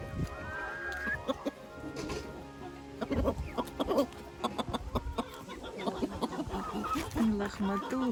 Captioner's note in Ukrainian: сміх